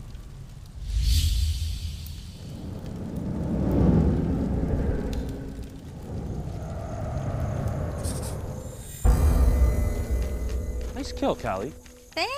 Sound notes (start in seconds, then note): 0.7 whooshing; 1.1 fire sizzling; 9.0 dramatic music